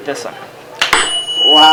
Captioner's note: rings tuning fork